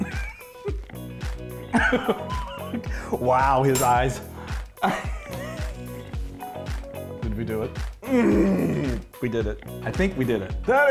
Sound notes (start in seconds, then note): 1.7 laughing; 8.0 grunting